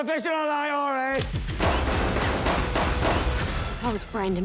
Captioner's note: gunshots